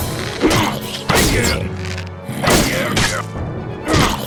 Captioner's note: N00bly grunting